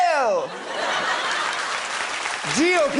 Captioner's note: applause